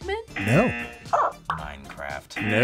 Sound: buzzer; buzzer barks; buzzer

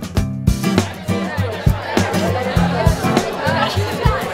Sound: students chattering

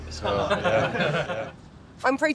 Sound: laughing

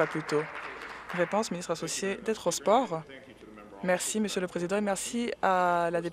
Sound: applause

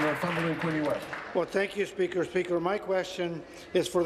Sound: applause

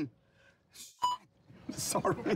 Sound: beep; people laughing

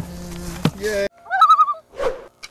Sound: loon call

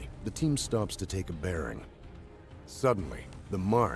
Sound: voiceover

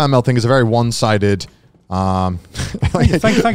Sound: giggles

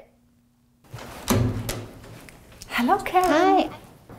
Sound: door opens

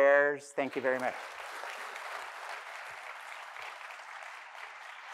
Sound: audience clapping

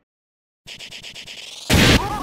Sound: Pyro's Flamethrower starting

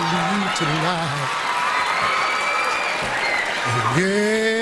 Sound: audience cheers

